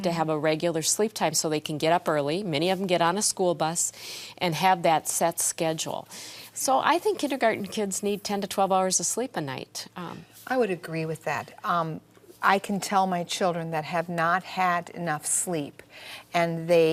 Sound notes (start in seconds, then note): none